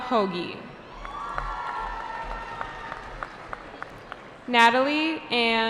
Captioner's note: cheering